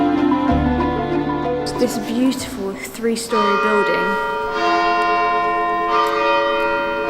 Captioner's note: interrupted by Cathedral Bells Ringing